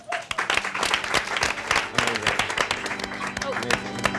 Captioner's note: all applauding